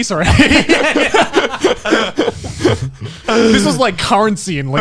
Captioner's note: men laugh